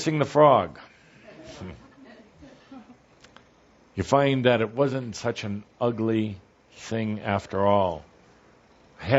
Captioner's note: some laughter